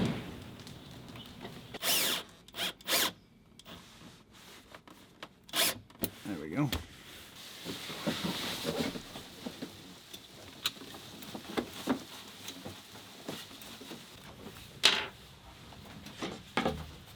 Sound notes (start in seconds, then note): 1.4 power drill whirring